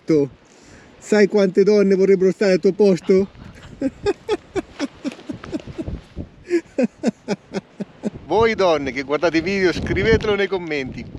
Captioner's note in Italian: Risate